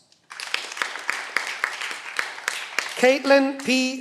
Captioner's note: cheering